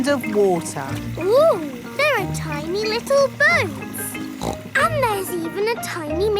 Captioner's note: snorts